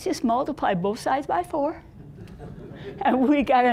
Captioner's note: audience laughing